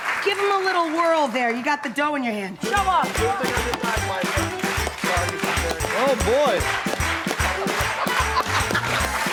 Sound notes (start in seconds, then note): 0.0 audience applauding; 2.6 audience clapping; 2.6 jaunty music; 7.3 audience clapping